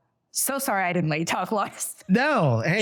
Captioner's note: laughs